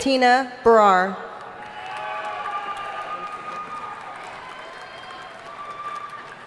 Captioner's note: audience cheering and applauding